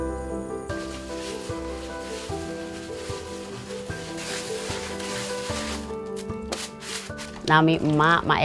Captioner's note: the sound of washing rice